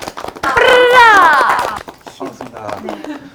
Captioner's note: exc ited